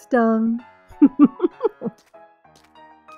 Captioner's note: chuckles teasingly